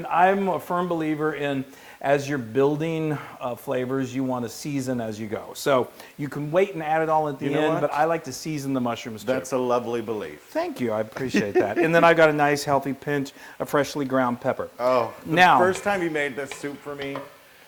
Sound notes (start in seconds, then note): 11.2 laugh